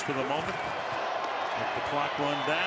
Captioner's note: cheering